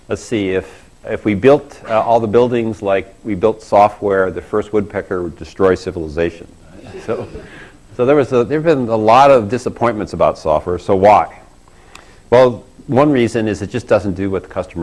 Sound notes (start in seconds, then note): 6.7 laugh